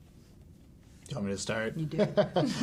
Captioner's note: laughs